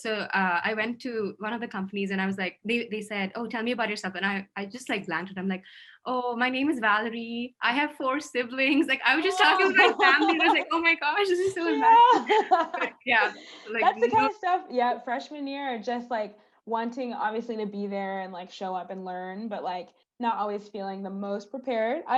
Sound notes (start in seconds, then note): 9.3 laugh